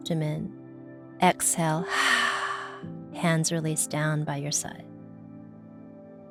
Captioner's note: hard sighing